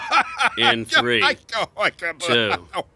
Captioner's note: laughing